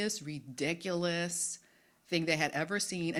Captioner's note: none